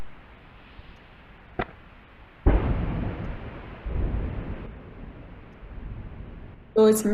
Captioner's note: sound of airgun pulse